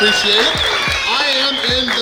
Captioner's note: cheering & Clapping